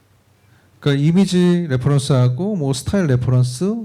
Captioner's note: speaking korean